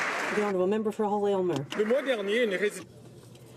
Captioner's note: some Applause